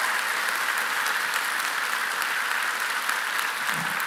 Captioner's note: applause